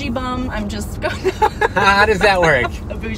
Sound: laughs

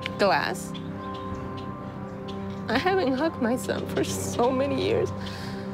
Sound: voice breaking

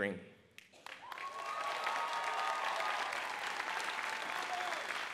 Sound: audience applauding

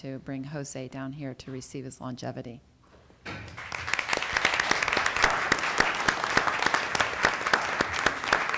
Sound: applause

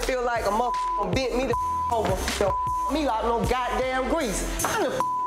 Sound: beep; beep

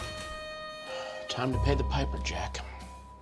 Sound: bluesy music; sighs

